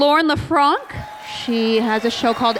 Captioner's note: applause